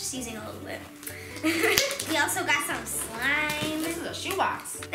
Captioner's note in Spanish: risas